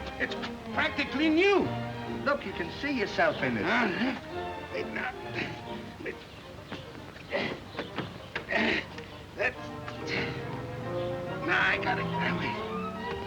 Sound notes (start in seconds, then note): 6.4 birds chirping